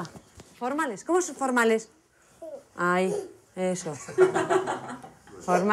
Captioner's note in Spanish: risas